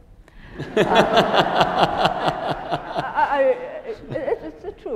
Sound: attendees laughing

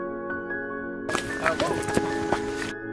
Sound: chatter

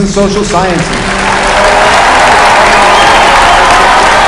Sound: applause

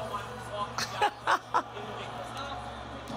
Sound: laughing

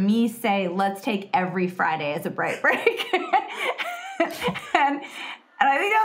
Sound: laughing

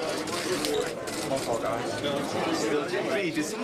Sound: men talking

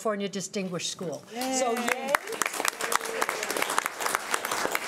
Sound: clapping

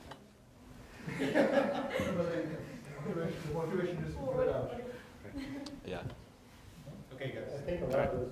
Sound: laughter

